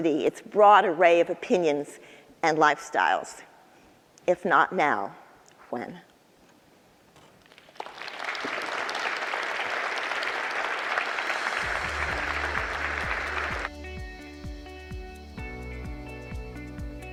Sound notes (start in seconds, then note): 7.4 audience clapping; 11.3 light upbeat music